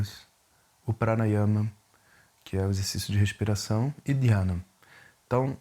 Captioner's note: breathing exercise